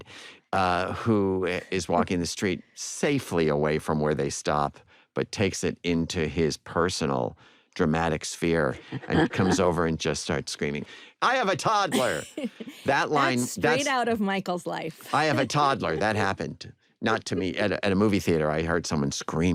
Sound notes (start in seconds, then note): 11.9 laughter